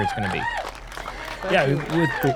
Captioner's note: applause